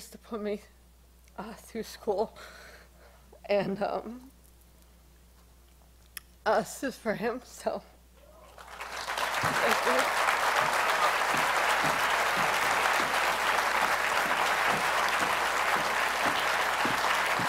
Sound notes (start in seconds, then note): 10.6 applause